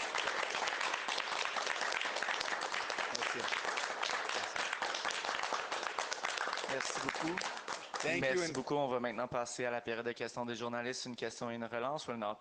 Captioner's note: applause